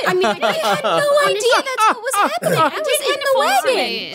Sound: group laughing

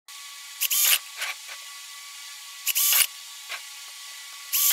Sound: steam Vents

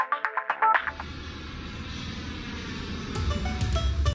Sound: engine roaring

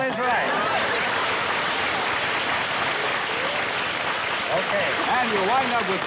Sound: applause

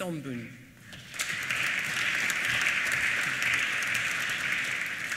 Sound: applause

